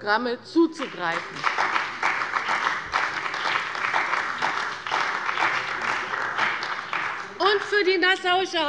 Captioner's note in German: Beifall bei dem BÜNDNIS 90/DIE GRÜNEN und der CDU